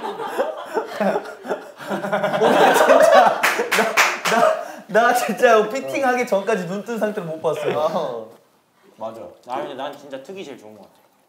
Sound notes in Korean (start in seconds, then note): 0.0 많은 것이 담긴 웃음